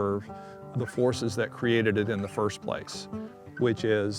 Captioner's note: none